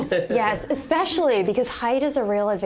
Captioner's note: laughter